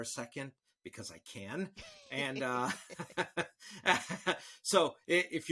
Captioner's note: all laughing